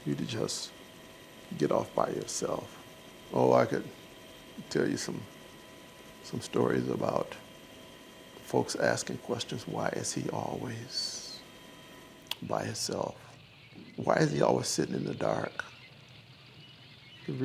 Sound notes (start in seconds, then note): none